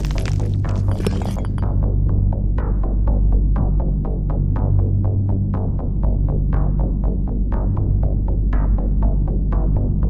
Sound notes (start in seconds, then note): 1.8 crunching stone